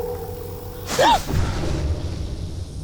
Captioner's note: gasps